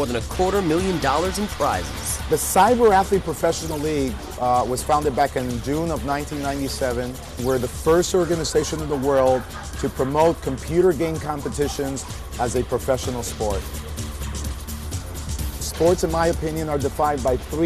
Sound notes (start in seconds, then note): none